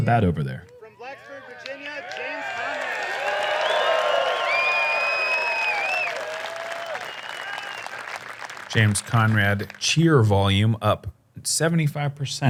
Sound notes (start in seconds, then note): 3.5 applause; 3.5 cheering